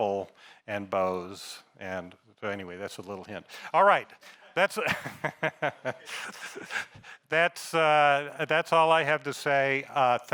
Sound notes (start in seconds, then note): 4.0 audience member laughing; 4.8 laughs